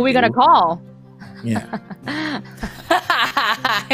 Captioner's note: laughing